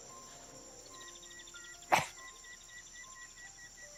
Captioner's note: scoffs